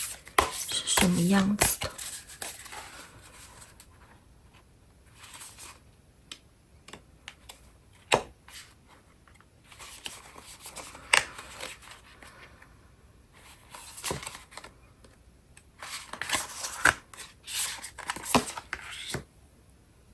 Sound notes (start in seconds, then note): 2.1 drawing cards